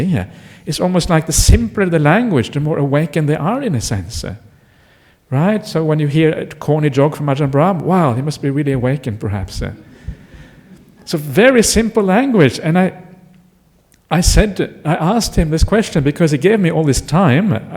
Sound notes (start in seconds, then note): 10.7 laughter